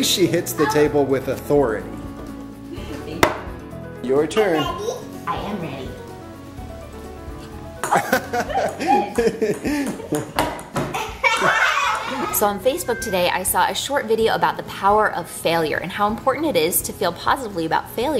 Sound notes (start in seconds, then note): 7.8 laughing